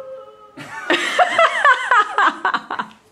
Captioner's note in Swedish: skratt